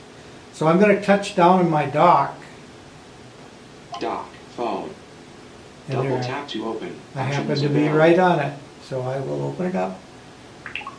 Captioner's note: voice-over: doc phone